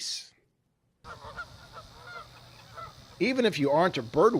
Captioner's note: Canada geese sounds